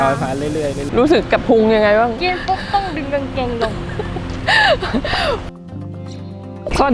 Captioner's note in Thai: หัวเราะ